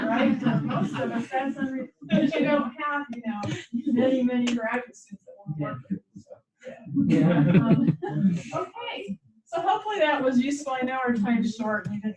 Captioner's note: laughter